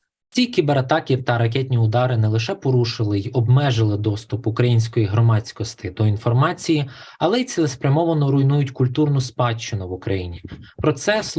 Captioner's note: foreign Language Spoken